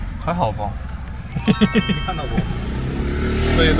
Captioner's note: laughter